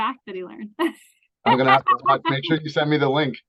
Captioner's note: laughs